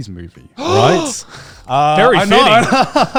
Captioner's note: gasps